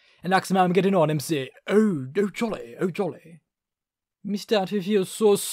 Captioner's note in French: accent Anglais